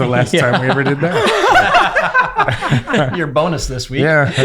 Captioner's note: laughing